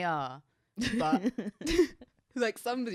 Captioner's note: chuckles